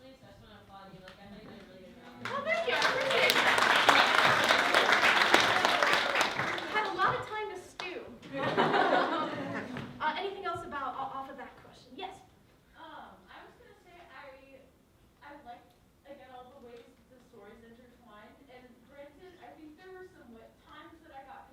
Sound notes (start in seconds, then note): 3.9 applause; 8.2 laughter